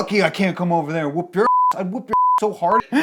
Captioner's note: beep